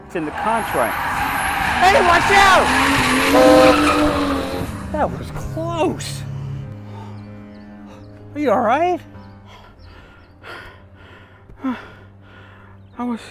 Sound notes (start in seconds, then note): 0.0 tires squealing; 9.3 Terrell heavily breathing